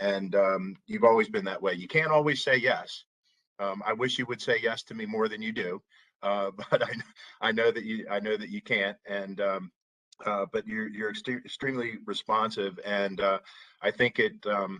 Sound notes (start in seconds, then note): 6.5 laughter